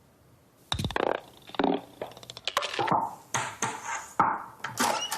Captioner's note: ball rolling and clicking on floor